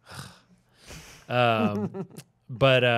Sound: chuckling

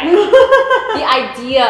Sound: laughs

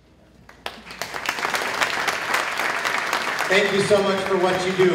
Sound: applause

